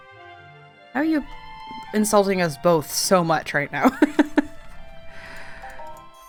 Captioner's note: laughs